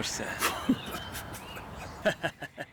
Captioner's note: demonic laughter; terrifying demonic laughter